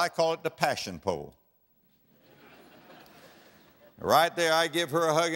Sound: audience laughter

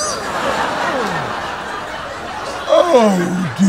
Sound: audience laughs

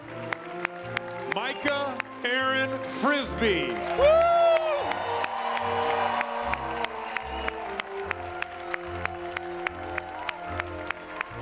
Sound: audience Cheers

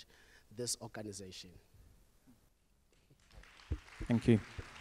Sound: audience applause

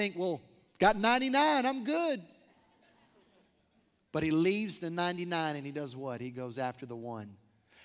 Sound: laughter

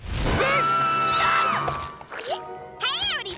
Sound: screams

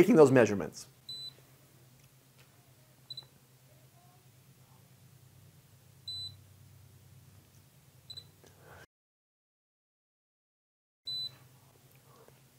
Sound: device beeping periodically as measurements are taken

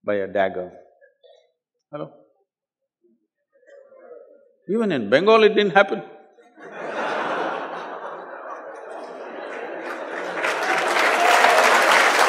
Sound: laughter/Applause

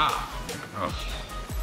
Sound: groans

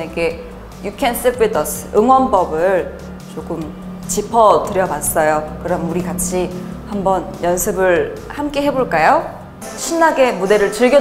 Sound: vroom vroom

